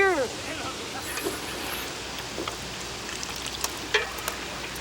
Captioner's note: Bruto slurps